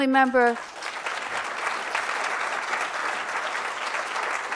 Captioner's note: applause